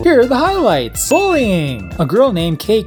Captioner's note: ding